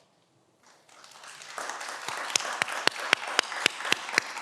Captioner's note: everyone applauds